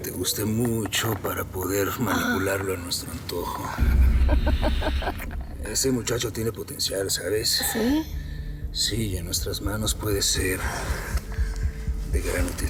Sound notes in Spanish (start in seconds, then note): 4.1 Risas